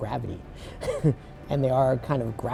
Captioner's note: laughs